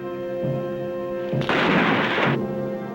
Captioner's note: gunshot